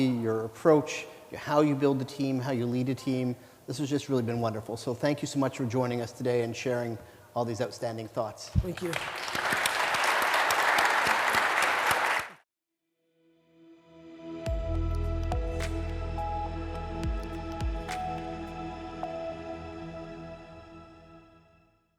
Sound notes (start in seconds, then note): 8.6 applause